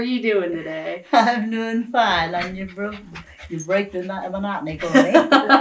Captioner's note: laughter